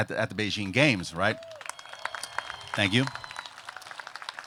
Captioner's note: applause